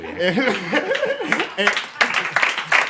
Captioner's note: applause